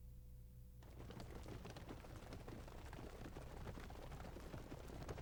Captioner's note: hooves clopping